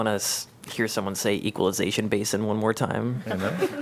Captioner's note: laughter